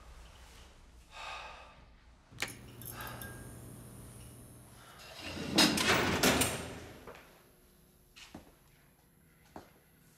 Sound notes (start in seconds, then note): 1.9 switch clicks; 2.4 bulb buzzes; 5.0 metal clacks